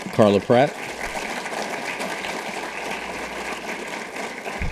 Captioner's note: audience applauding